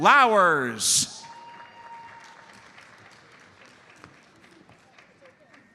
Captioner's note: audience applauds